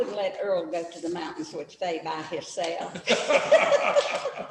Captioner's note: laughter